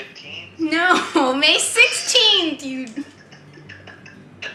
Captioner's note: laughing